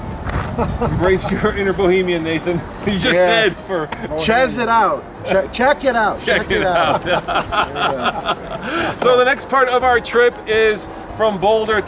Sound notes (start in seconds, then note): 6.2 laughs